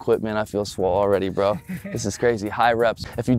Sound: laughing

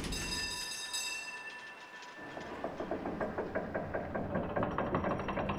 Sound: creaking noise

